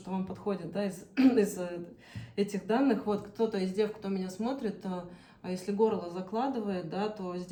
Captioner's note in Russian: откашливается